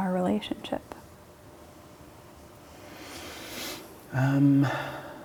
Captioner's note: takes a deep breath